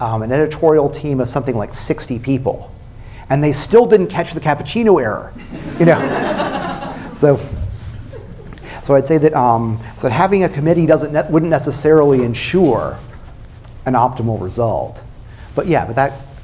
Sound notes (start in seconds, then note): 5.4 laughter